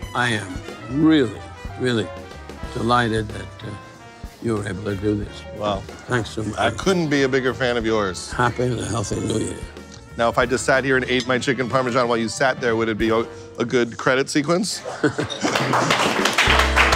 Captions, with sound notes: I am really, really delighted that, uh, you were able to do this. Wow! I couldn't be a bigger fan of yours. Happy and a healthy new year. Now, if I just sat here and ate my chicken parmesan while you sat there, would it be a, a good credit sequence? [Laughing]